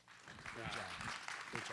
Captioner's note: applause